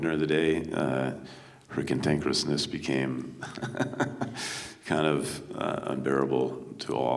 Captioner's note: chuckles